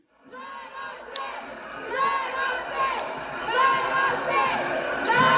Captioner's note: crowd demonstrating